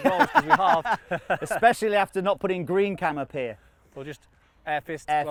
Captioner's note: laughs